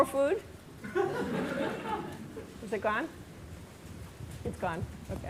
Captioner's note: laughter